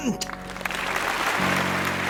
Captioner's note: audience applauds